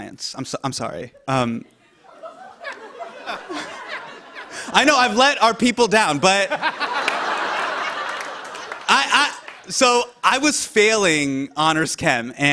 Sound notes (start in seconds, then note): 1.6 laughter; 6.4 laughter